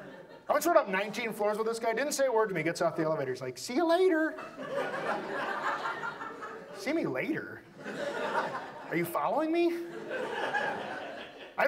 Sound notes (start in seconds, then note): 0.0 audience laughs; 4.2 audience laughs; 11.4 audience laughs